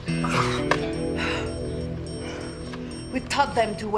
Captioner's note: Nicole panting